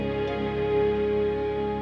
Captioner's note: none